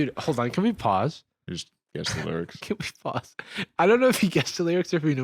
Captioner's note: laughs